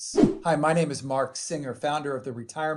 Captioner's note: swoosh